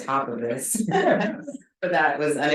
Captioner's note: both chuckle